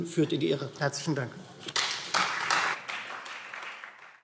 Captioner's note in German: Beifall Freie Demokraten